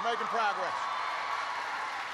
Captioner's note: applause